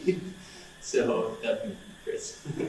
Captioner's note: laughs